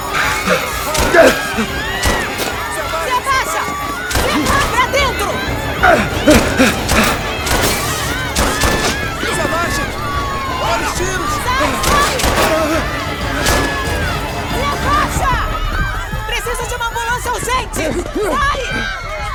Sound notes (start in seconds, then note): 0.0 screaming; 0.8 gunshots; 5.8 grunting; 7.1 gunshots; 11.8 shouting continues